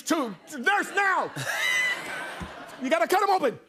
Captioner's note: laughter